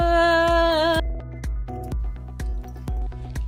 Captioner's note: humming